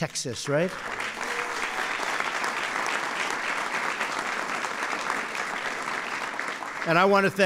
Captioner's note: applause